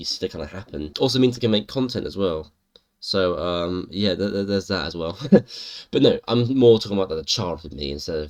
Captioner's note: chuckle